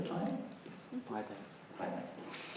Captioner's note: voiceover